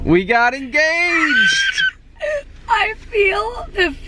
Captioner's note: excited squeal